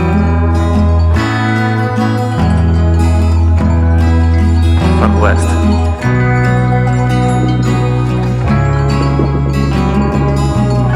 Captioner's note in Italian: Applauso